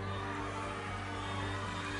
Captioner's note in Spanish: gritos